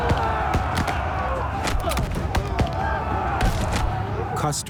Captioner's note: shouting